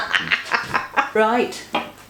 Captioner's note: laughs